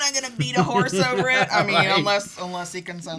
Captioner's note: chuckles